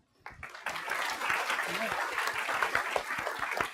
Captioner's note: applause